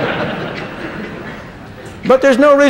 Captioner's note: laughter